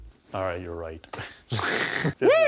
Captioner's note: chuckles